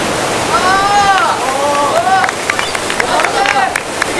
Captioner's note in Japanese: パチパチパチ：拍手